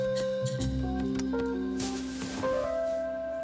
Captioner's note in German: Rascheln